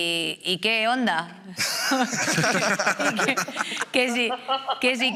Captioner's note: they laugh